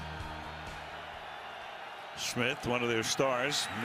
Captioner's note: crowd clamoring